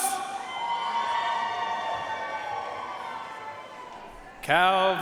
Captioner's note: audience cheering and applauding